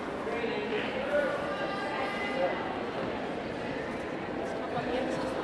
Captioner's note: audience indistinctly chattering